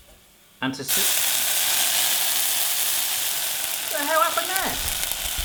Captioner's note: sizzling